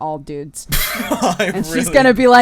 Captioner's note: laughs; cry